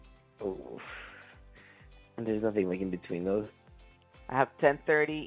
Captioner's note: groans